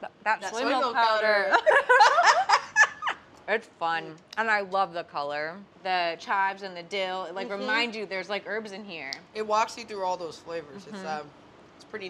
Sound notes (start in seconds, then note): 1.6 both laugh